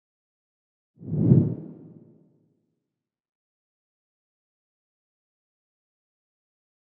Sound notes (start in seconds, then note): 1.0 whoosh